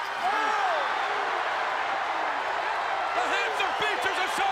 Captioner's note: crowd cheering